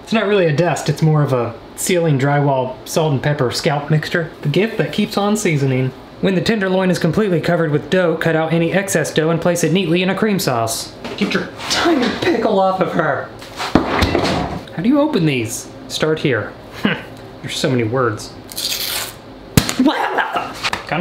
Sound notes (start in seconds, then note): 13.7 loud thud; 16.7 man grunts; 18.5 paper tearing; 19.6 loud pop; 19.8 man shouts